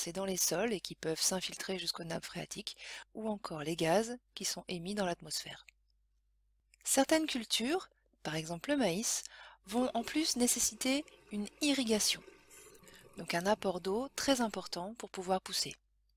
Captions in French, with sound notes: dans les sols et qui peuvent s'infiltrer jusqu'aux nappes phréatiques ou encore les gaz qui sont émis dans l'atmosphère. Certaines cultures, par exemple le maïs, vont en plus nécessiter une irrigation, [bruit d'eau qui coule] donc un apport d'eau très important pour pouvoir pousser.